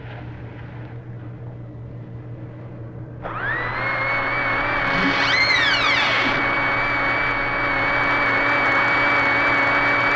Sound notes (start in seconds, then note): 3.2 vacuum whirring; 5.4 door creaks